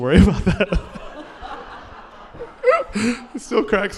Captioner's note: laughter